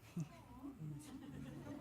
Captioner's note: laughter, chatter